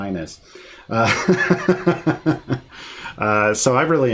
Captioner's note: laughing